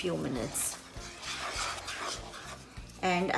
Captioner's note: scraping